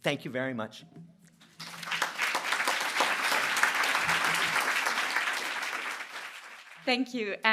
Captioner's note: applause